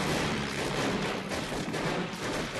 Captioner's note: gunshots